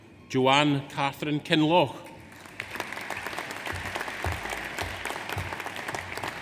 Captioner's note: audience applauds